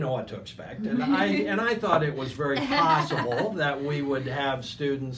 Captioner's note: laughing